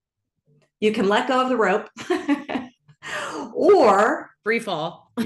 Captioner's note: laughs